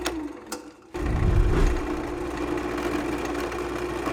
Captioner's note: air whooshes